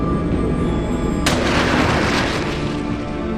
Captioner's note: gun fires; water splashes